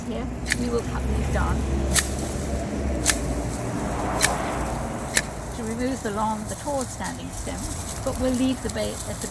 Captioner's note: cutting sounds